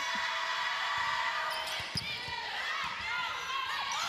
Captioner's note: cheering